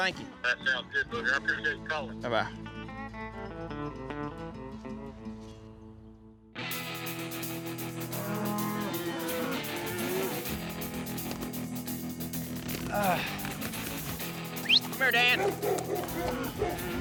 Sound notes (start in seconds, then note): 8.1 cattle mooing; 14.6 whistle; 15.1 dog barking